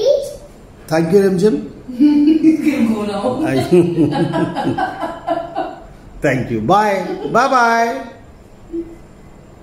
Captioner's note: laughter